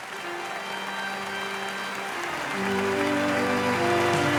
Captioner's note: audience clapping